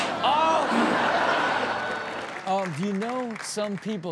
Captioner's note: hand slaps